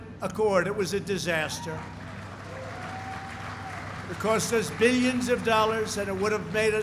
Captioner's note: applause